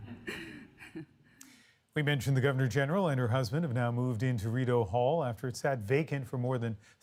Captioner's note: laughter